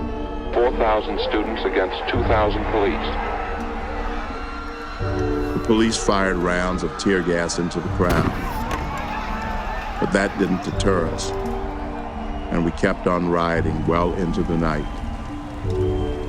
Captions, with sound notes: 4,000 students against 2,000 police. (people shouting) >> The police fired rounds of tear gas into the crowd, but that didn't deter us, and we kept on rioting well into the night.